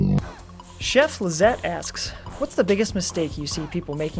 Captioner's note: voiceover